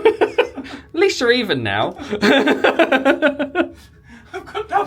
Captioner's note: pair laughing; laughing